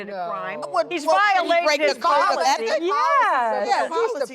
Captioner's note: women all speaking